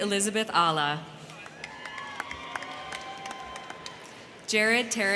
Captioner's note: crowd clapping; crowd cheering